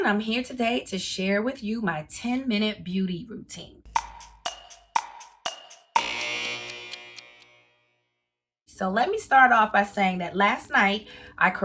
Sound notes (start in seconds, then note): 3.9 clock ticking; 5.9 alarm buzzing